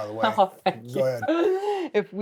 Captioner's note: laughs